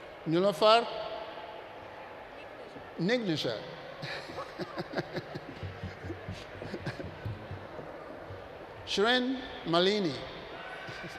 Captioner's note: laughs